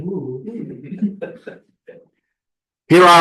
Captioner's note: laughter